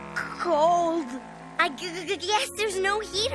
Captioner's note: stammering